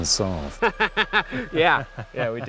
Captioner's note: laughing